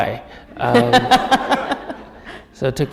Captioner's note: laughter